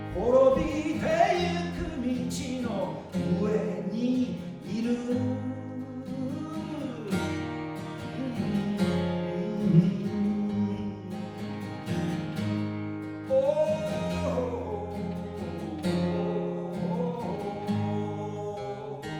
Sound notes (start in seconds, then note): 8.0 humming